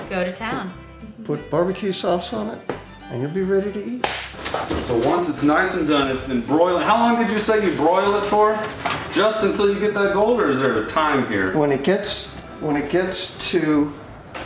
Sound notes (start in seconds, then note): 4.0 claps